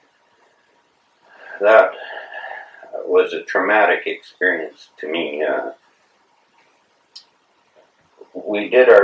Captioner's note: sighs